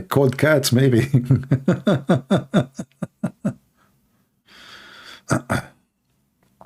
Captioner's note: Ketawa